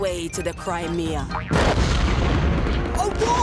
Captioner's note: explosions